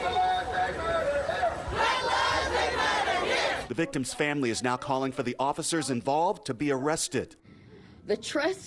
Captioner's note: crowd chanting